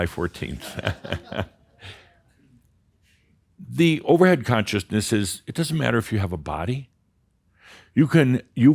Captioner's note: Adamus chuckles